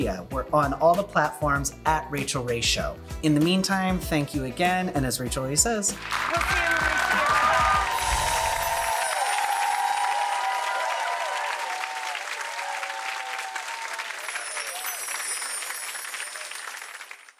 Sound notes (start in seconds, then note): 8.0 audience cheering